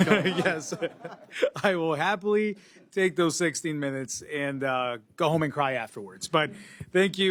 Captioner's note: laughter